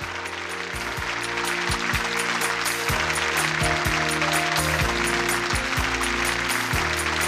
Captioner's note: audience applauds; inspirational music